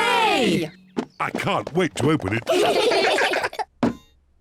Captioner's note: all giggle